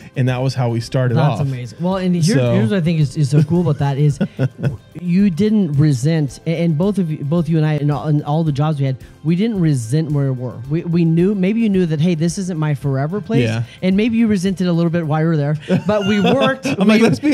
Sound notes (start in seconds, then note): 3.2 laughter; 15.6 laughing